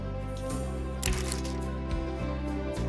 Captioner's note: chain locks